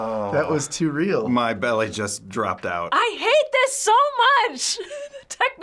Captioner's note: chuckles